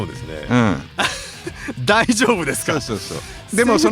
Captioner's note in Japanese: 笑い